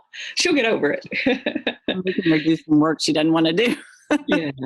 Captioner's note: laughs